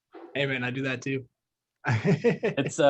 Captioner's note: laughs